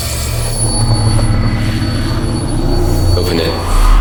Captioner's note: whirring